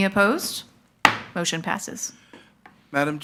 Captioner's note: gavel knocks